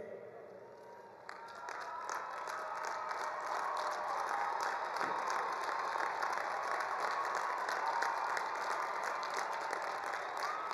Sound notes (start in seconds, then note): 1.2 attendees applauding; 1.2 attendees cheering